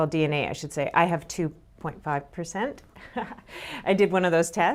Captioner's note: laughs